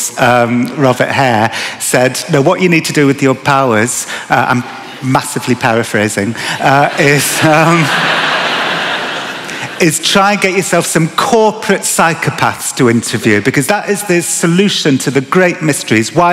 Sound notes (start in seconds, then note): 6.8 laughter